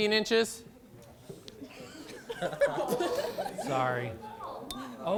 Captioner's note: laughter